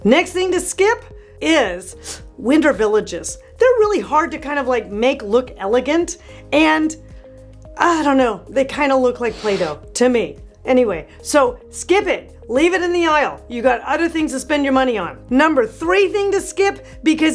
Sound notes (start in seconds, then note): none